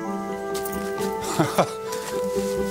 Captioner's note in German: Sanfte Musik; lacht